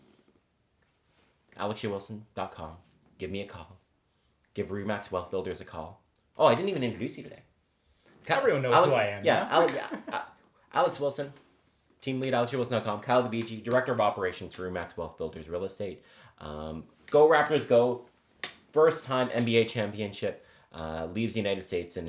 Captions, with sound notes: alexjwilson.com, give me a call. Give RE/MAX Wealth Builders a call. Oh, I didn't even introduce you today. - Everyone knows who I am, yeah? (chuckling) - Yeah, Alex Wilson, Team Lead, alexjwilson.com. Kyle Dovigi, Director of Operations through RE/MAX Wealth Builders real estate. Go Raptors go! First time NBA championship, leaves the United States